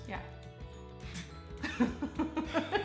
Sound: laughter

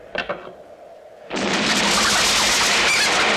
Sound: explosion

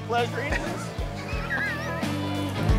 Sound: laughing

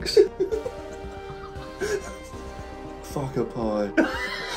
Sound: both laughing

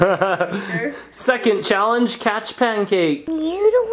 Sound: laughs

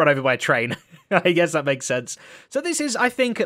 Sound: laughs

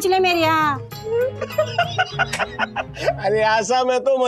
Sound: laughs

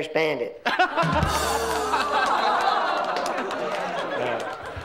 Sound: all laughs

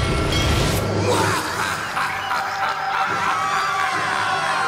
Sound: evil laughter

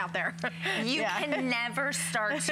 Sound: laughter

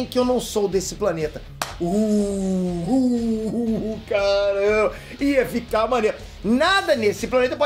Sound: howling

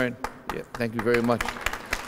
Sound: applause

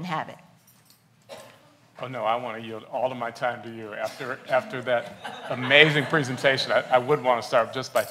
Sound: laughs

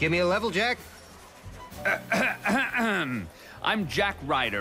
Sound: clears throat

